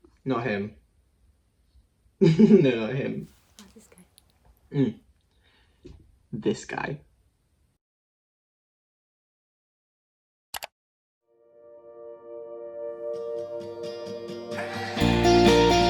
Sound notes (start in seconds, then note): 2.2 laughs; 10.5 click